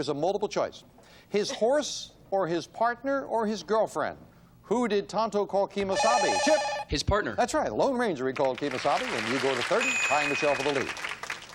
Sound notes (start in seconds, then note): 5.9 beep